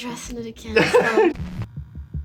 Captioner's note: laughs